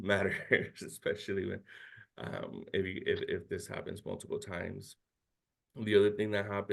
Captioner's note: chuckles